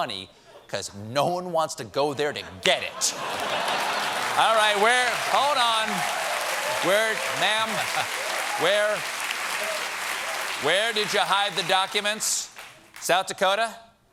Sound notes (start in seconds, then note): 6.8 applause